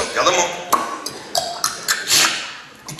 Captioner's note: gulping